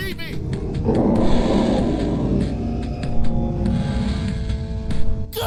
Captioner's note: growling roar